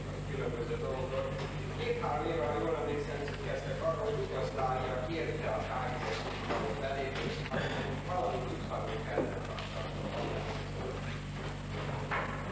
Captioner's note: whisper